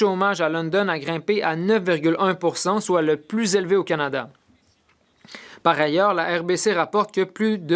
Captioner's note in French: voix de l'interprète